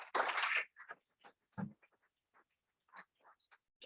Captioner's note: audience clapping